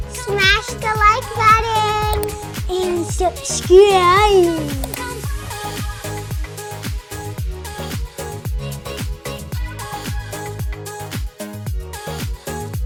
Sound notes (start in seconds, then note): 0.0 upbeat music; 2.0 mouse clicking; 5.0 upbeat music